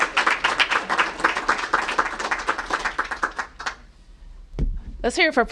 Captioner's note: applause